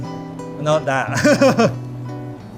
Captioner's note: laughs; gentle jazzy music